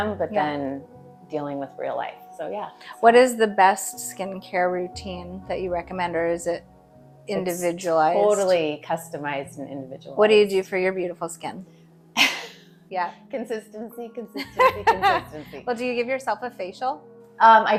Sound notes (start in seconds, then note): 12.2 chuckling; 14.3 laughing